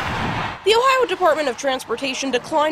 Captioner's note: sound of cars